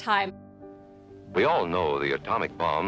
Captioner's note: soundbite of archived recording